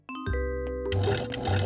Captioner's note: refrigerator whirring